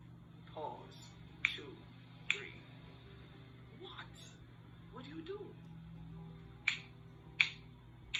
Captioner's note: snap. snap. snap